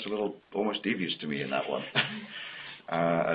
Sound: laughs

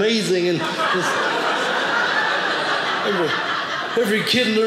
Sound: audience laughing

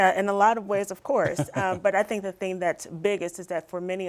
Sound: laughter

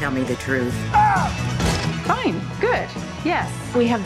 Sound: man screams

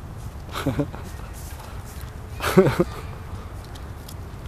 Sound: light chuckling in background

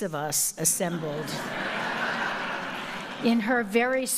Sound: audience laughing

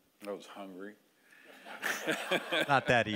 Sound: audience laughing

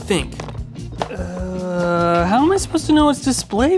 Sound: cables clattering

